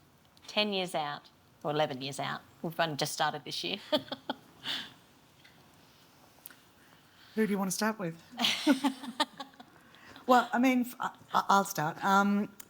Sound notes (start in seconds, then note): 3.9 laughs; 8.4 laughs